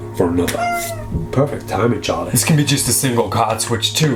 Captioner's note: cat meows